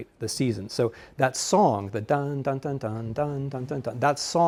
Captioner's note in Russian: напевает